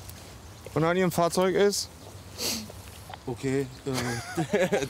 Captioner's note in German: lacht